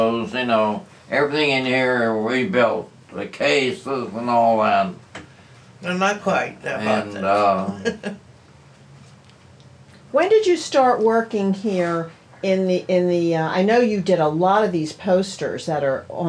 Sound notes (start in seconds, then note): 7.6 laughs